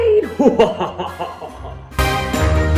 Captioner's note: evil laugh